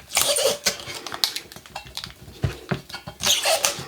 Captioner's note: tape squeaking